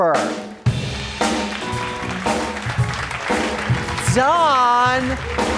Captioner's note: audience clapping